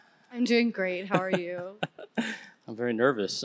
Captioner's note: chuckling